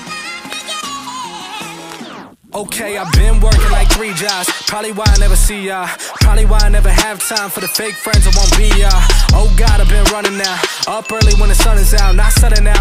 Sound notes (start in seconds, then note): 1.9 radio is playing